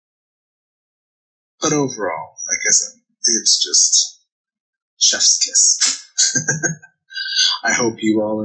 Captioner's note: chuckling; Smooch